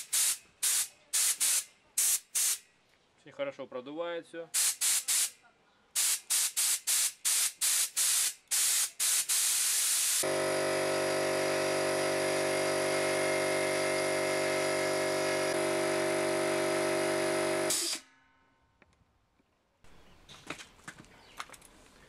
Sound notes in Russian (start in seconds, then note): 5.8 слышен звук выходящего воздуха